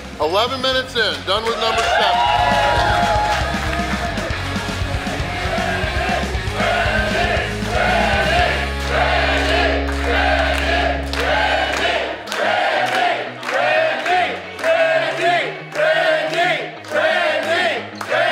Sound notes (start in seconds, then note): 2.3 crowd applauding; 2.3 crowd cheering; 6.1 crowd